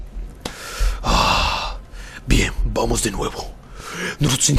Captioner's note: sigh